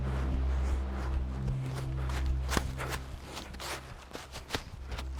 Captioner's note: leaves crunching